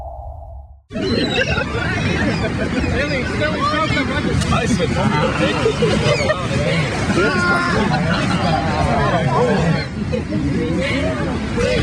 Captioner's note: people laughing, indistinct chatter